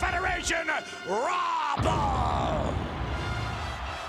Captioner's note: explosion booming; upbeat music